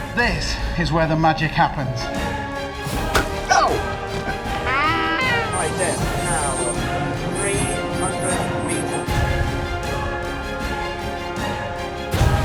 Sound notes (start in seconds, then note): 0.0 tense music; 3.0 dinosaur bites; 4.2 gentleman yelps; 4.9 seagulls squawking; 9.4 suspenseful music